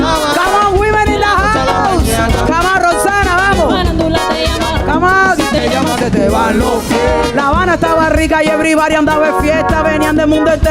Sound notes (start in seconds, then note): 2.6 indistinct chattering; 5.7 bright music; 5.7 singing in Spanish